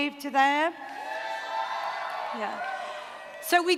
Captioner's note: cheering